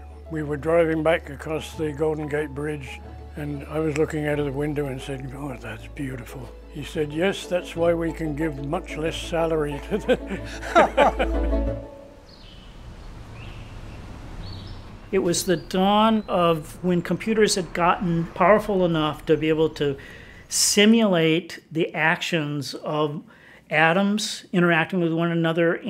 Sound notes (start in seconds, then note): 9.7 laughing; 12.0 birds chirping